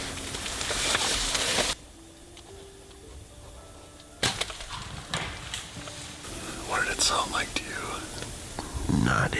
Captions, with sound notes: (bow thuds) What did it sound like to you?